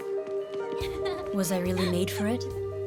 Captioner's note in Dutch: lachende kinderen